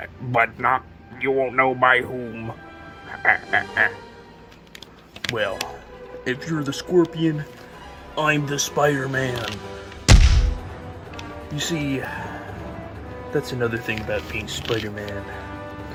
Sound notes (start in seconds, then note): 3.0 super duper evil laughing; 10.0 visceral punching sound